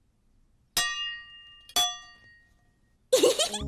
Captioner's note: clanking pot; giggling